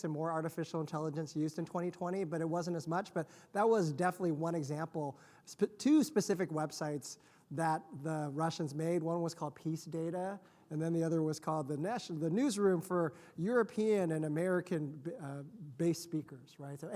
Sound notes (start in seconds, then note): none